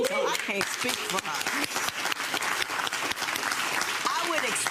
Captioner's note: audience applauds